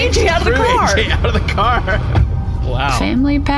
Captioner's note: the car door shuts